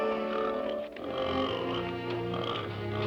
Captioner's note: grunting